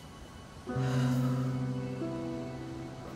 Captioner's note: sighs